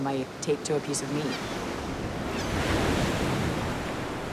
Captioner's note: waves crashing